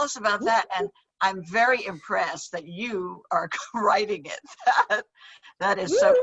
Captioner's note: chuckles